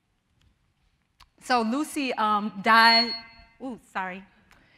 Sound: mic feedback

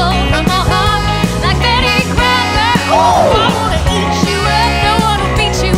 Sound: ooh!

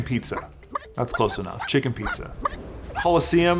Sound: chicken squawks

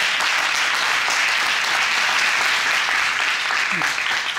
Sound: audience applauding

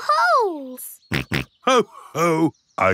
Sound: snorts

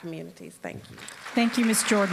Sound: applause

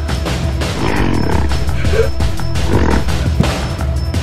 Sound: gorilla growling

